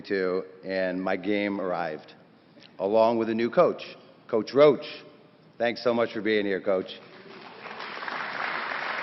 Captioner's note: applause